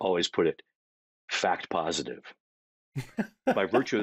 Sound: chuckling

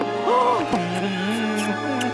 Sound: kissing

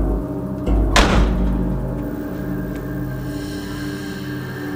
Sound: door slams

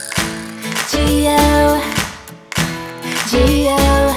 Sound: clapping

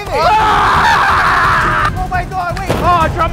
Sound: screaming

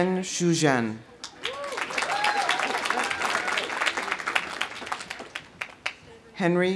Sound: audience applauding; audience cheering

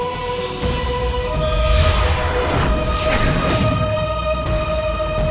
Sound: magical sound

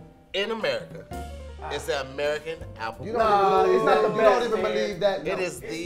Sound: boos

